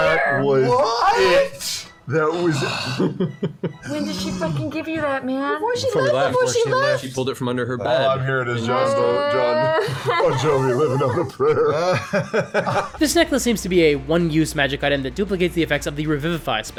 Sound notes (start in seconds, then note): 8.7 sobbing; 11.9 laughter